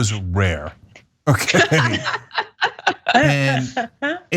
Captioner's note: laugh